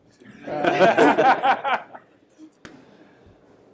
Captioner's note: laughter